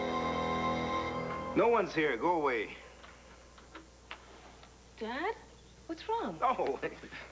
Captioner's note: doorbell rings